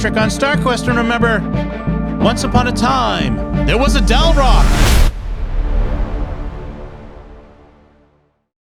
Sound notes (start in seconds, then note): 3.6 explosion